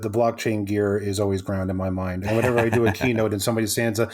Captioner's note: laughs